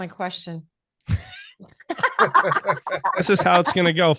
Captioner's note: laughing loudly